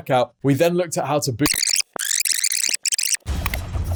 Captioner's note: audio rewinding; dramatic music